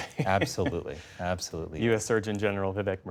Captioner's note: laughter